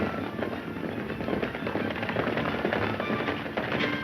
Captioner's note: racing horse hooves